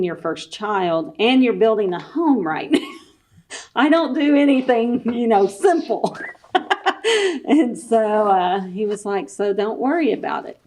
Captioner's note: laughs